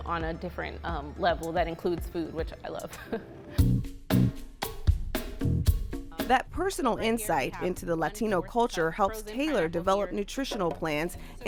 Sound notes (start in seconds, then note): 2.9 laughs; 3.5 upbeat music